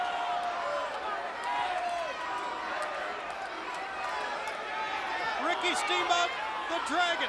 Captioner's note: crowd chatter